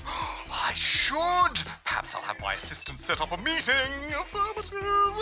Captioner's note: gasps